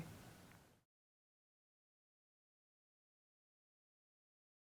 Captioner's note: silence